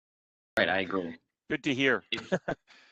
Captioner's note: laughter